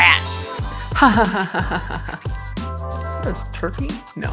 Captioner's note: laughs haughtily